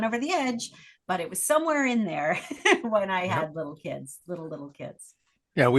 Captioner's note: laugh